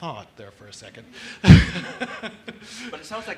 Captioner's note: laughs